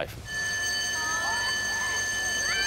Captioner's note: recess bell, children's voices